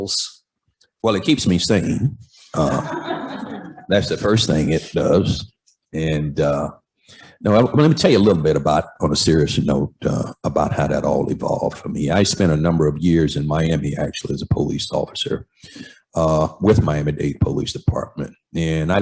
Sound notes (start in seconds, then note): 2.5 laughter